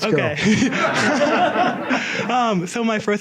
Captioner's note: audience laughs